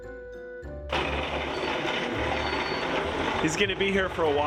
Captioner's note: offscreen Snow Plow Truck Grumbling